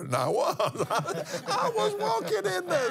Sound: laughs

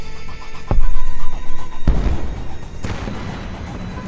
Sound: explosions

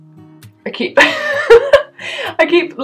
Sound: laughter

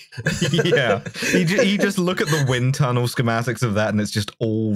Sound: laughter

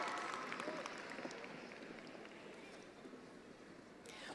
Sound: attendees applauding

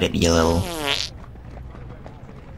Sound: passing wind

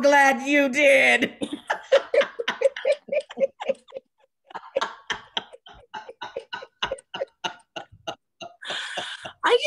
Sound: laughter

